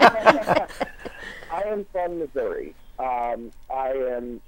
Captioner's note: laughing; laughing